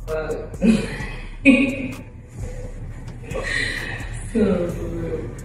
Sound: laughing

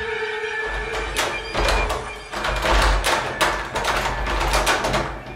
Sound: door knob rattling

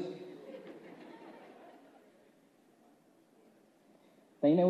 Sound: laughs

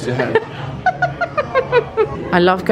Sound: laughing

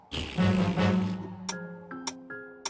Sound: ticking

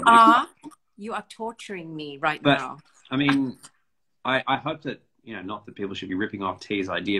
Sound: laughs

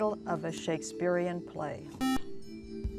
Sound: buzzer

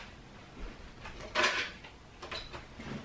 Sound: clicking

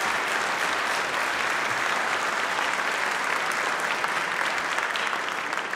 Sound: applause

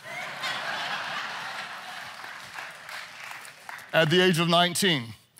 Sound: audience laughs

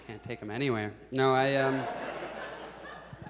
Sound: audience laughs

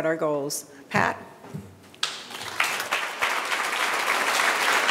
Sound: audience applauding

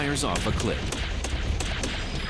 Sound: gunshots

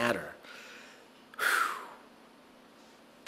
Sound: pheew

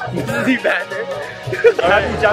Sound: laughs

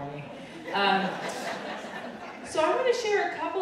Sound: audience laughing

